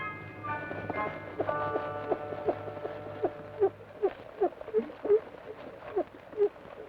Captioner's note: rocker box squeaks rhythmically